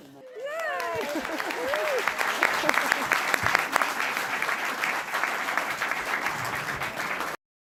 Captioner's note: applause